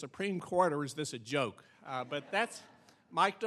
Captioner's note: audience laughing